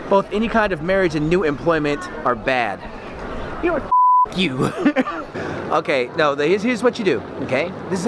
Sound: beep

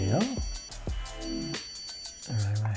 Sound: beep sound

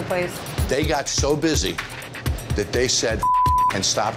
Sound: beeping

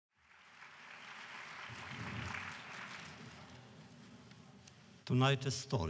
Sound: applause

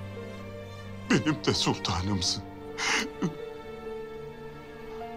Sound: crying

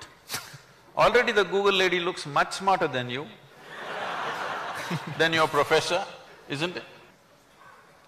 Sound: laughter

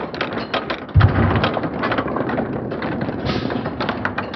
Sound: slow-mo MMX sounds continues

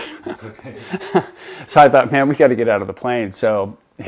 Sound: laughs

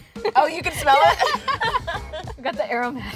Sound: both laugh

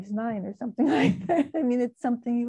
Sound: laughing

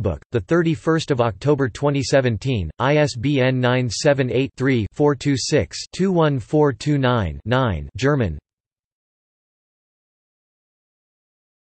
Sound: German

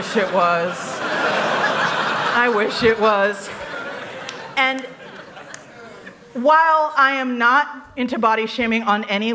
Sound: laughter

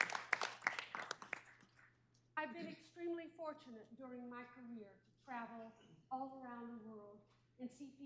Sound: applause

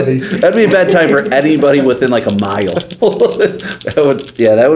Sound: laughs

